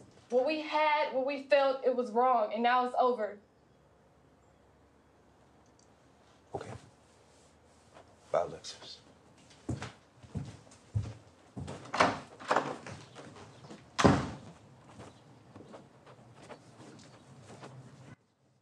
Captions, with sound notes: What we had, what we felt it was wrong and now it's over. - Okay. Bye, Alexis. (door slamming)